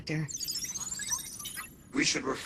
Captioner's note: jovial chirp